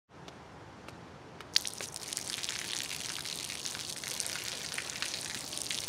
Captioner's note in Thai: เสียงน้ำไหล